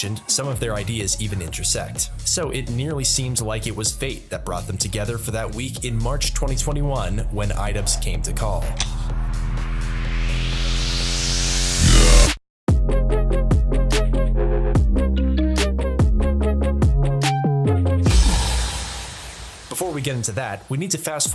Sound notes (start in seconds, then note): 8.7 click; 8.8 vrrroooooOOOOOOOMMMMMM; 11.8 grrraAAAAHHHH; 12.2 snare drum hit